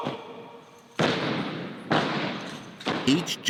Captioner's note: feet stomping